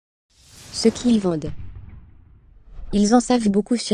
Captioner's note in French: whoosh cosmique